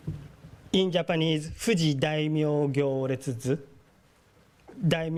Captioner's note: speaking japanese